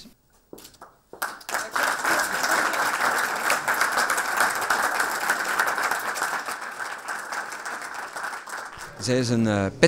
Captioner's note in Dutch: applaus